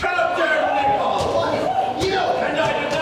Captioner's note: crowd exclaims frenziedly